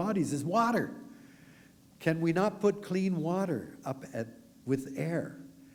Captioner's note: none